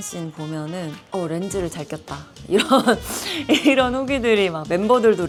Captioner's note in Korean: 웃음